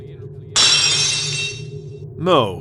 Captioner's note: lock shatters!